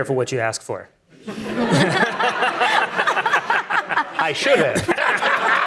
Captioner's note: audience applauding